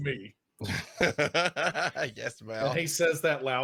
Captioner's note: laughing